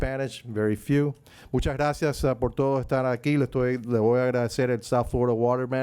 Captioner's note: speaking in Spanish